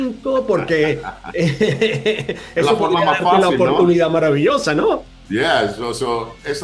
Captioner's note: laugh